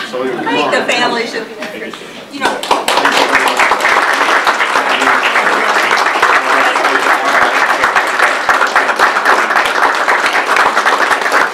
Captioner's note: audience applause